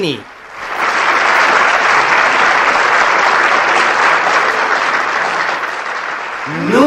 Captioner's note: applause